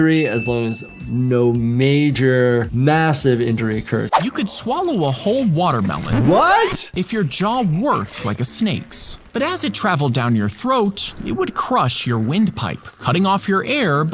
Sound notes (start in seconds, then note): 6.3 vinyl record scratching